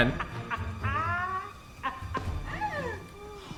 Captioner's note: laughter